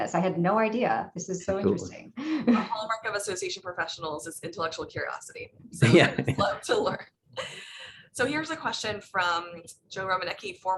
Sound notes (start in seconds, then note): 5.8 laughs